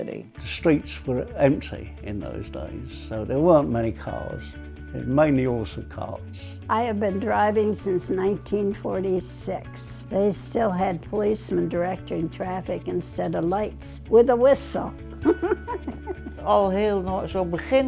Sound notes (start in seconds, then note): 15.2 laughs